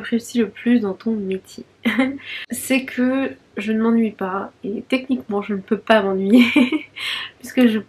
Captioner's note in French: rires